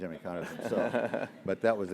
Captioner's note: laugh